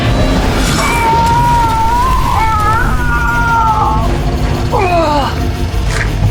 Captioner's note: energy shoots; suspenseful music; Hawk groans